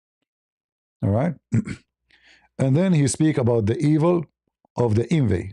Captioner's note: berdehem